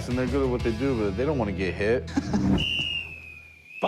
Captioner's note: laughs